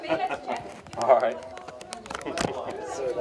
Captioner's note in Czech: Smích